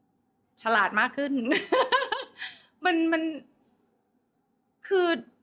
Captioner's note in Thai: เสียงหัวเราะ